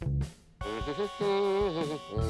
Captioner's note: humming